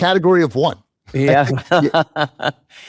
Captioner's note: chuckles